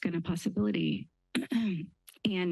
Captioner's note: clear throat